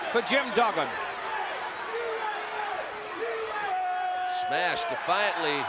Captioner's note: crowd chanting "USA"